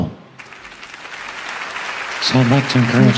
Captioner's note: applause